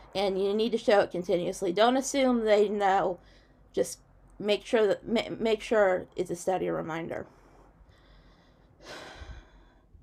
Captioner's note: sighs